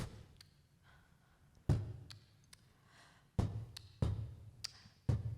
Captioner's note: beatboxing